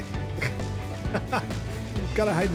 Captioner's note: laugh